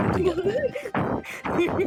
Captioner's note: both laughing